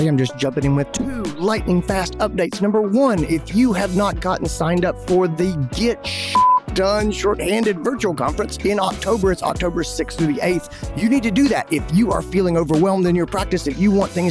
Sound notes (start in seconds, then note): 6.3 beep